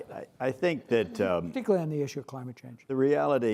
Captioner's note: laughs